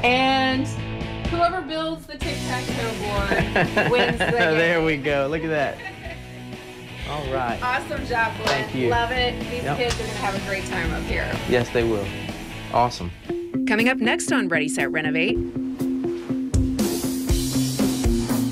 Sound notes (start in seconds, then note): 3.2 laughter; 17.3 soft rock music